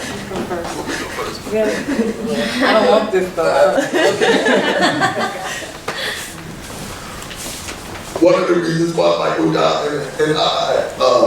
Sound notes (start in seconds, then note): 3.6 laughing